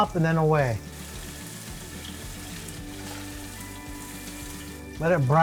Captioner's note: branzino sizzling